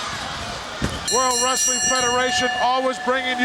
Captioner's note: bell ringing